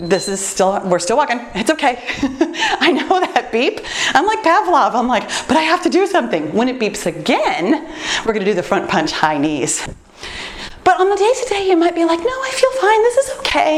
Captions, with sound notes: This is still... We're still walking. It's okay (laughs). I know that beep, I'm like Pavlov. I'm like, "But I have to do something!" When it beeps again, we're going to do the front punch high knees. But on the day-to-day, you might be like, "No, I feel fine. This is okay.